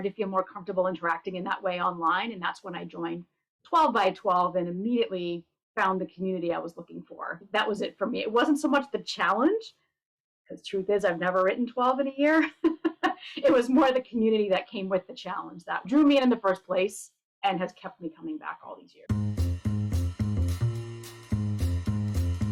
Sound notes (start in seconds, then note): 12.7 laughs; 19.1 bright music